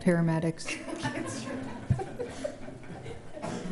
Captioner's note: laughs